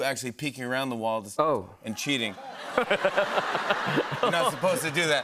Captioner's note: laughter